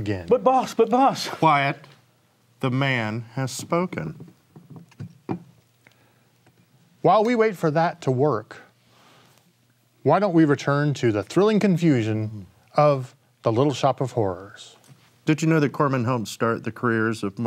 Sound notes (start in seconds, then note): none